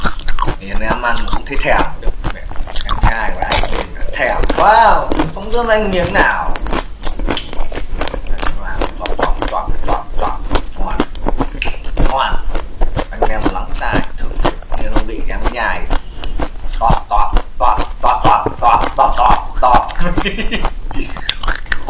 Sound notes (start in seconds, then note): 6.8 the sound of chewing: "Chop Chop Chop..."